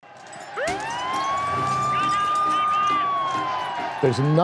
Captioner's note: crowds yelling, sirens blaring